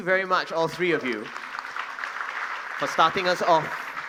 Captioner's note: audience applauding